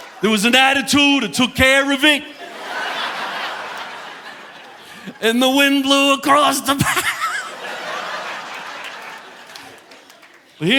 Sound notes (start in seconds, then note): 0.0 audience laughing; 2.2 audience laughing; 6.4 laughs; 8.8 audience laughing